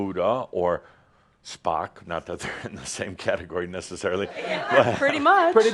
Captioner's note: laughter